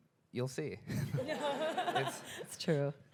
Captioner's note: audience laughing